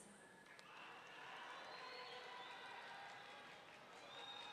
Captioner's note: audience cheering